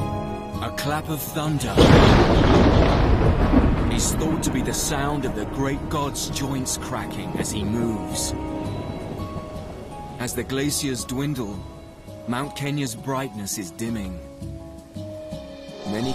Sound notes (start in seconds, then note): 10.6 fire crackles